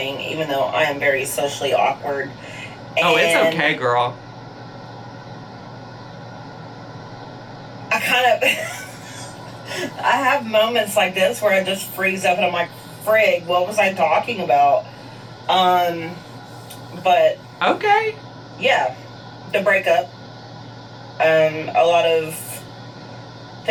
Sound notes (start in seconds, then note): 8.1 laughs